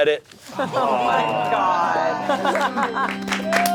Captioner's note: audience talking simultaneously; sad organ music